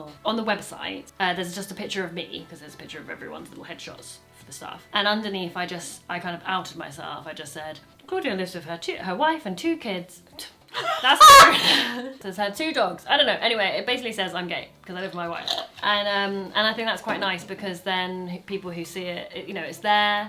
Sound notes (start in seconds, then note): 10.7 laughs